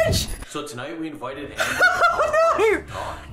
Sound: laughing

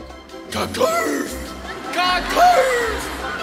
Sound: grunting

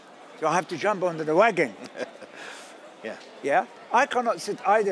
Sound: both laugh

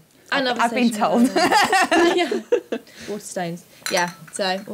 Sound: laughs

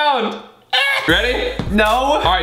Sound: squealing

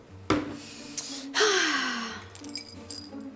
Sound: Nessa sighs

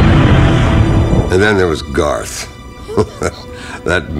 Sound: laughs

